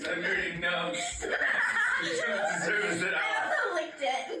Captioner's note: laughs